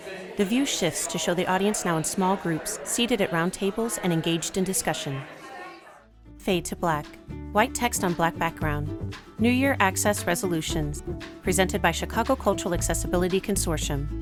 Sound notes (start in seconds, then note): 0.0 low hum of chatter at the tables; 6.5 light plucky guitar music